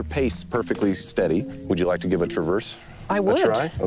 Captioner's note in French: rire